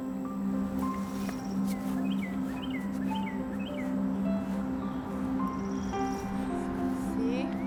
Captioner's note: gentle music; bird chirping